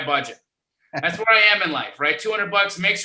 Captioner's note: laughing